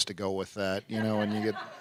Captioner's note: laughter